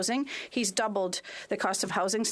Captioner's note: speaking French